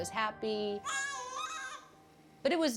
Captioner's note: cooing